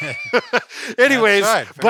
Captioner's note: both laughing